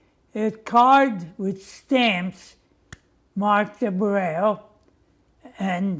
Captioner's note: non-english